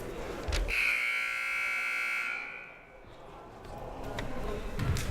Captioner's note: buzzer blaring; crowd murmuring